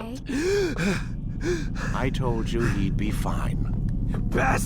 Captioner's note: gasp